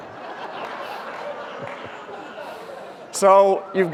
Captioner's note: audience laughter